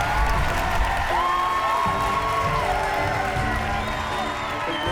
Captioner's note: cheering